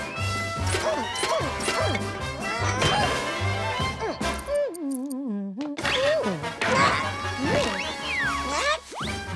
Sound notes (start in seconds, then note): 0.2 grunting; 4.4 humming